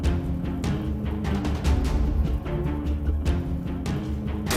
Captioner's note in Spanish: Habla entre dientes